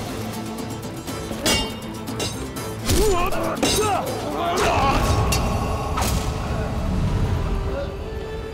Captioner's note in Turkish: Dövüş sesleri